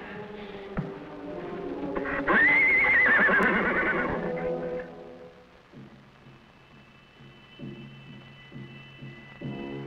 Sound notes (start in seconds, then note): 2.1 Champion whinnies; 5.7 drums beating